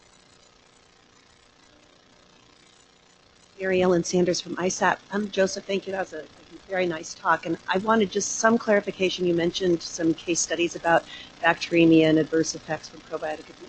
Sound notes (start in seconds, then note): none